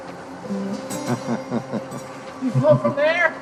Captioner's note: Rick laughing